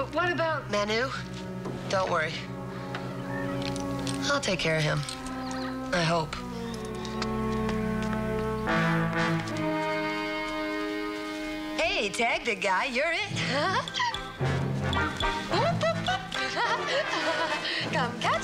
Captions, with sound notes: Okay, do you remember where the spare part's hidden? Yeah. But what about... Manu? Don't worry. I'll take care of him. I hope. Hey, tag, big guy. You're it. [giggles]